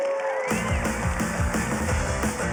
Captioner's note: cheering; upbeat music